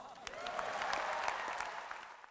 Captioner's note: audience applause